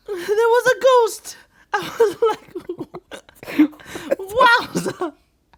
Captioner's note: laughing